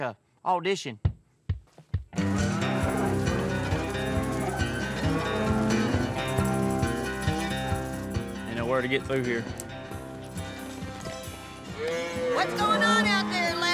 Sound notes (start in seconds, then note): 2.2 cows moo